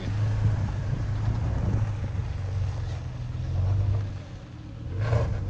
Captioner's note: car engine running